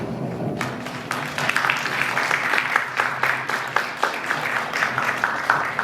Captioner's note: applause